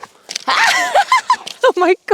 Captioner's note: laughs